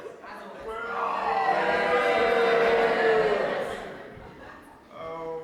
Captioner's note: audience boos